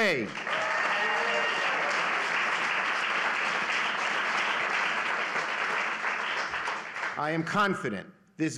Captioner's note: applause